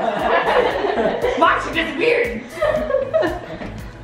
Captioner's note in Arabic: يضحك الجميع